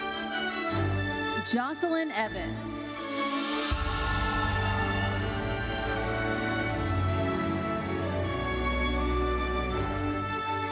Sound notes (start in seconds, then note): 4.0 audience cheering; 6.3 lively uplifting music continues